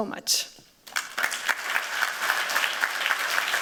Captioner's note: applause